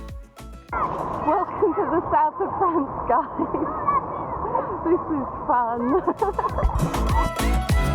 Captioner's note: laughing; upbeat music